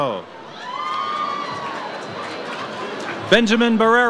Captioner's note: audience cheers